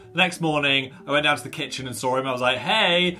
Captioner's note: none